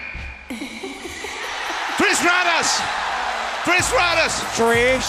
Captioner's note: applause